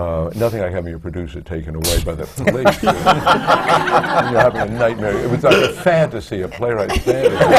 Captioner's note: laughter